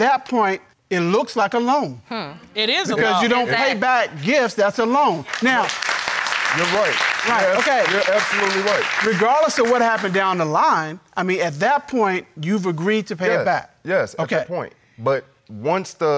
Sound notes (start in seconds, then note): 5.2 audience applauds